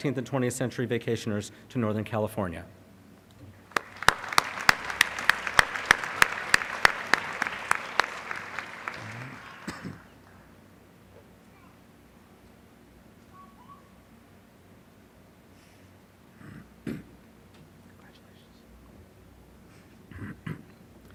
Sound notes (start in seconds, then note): 3.6 applause